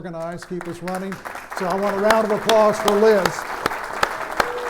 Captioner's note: applause